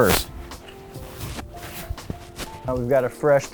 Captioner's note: mitt scrubbing